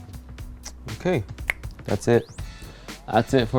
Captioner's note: snapping